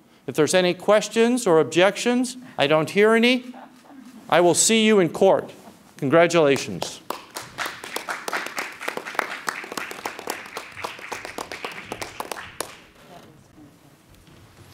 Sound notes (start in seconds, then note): 6.4 audience clapping